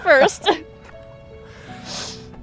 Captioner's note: both laughing; gentle music continues